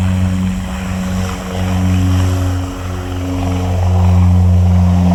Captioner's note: plane engine roaring